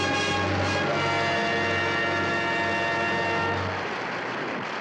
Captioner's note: audience applauds